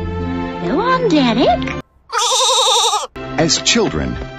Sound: baa

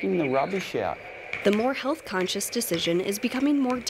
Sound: voiceover

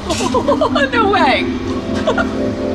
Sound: laughing

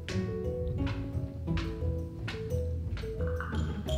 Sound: steps approaching

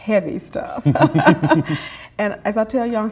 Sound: laughter

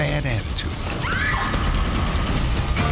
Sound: screaming; theme music

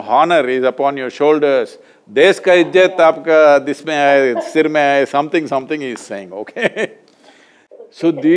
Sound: Sindhu laughs; laughs

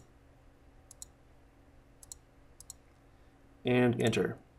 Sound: mouse clicking

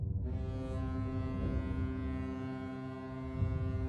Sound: ship honks

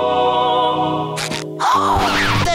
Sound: gasps

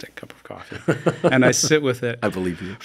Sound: laughing

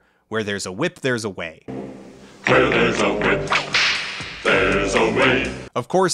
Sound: whipcrack

